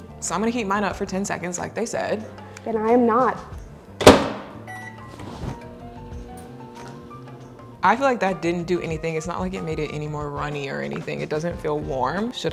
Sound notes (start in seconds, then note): 4.0 microwave whirring; 5.0 faint mellow music